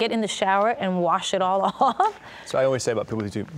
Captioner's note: laughing